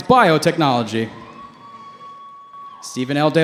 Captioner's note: cheering